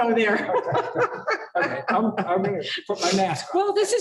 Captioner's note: laughter